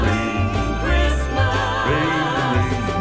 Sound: ring, ring

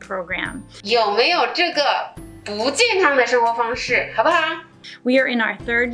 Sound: teacher speaking in Mandarin Chinese

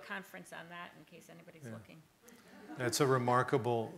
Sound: audience laughing

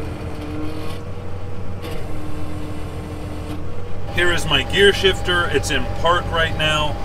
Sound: tractor sound

